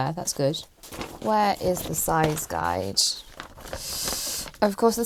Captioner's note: rustling